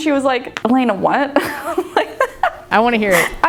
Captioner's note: laughs